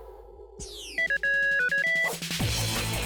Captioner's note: beeping; theme music